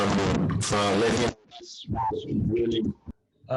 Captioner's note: static crackling